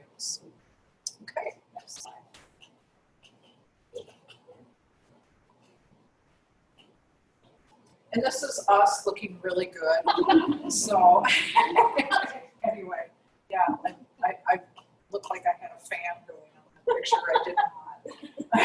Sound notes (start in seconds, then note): 9.9 laugh; 16.8 laughter